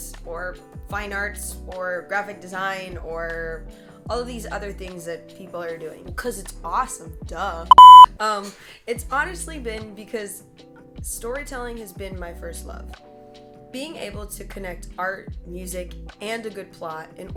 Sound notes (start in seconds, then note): 7.7 beep